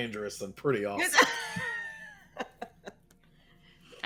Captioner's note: all laughing